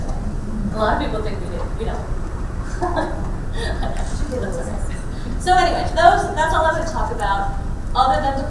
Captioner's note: laughs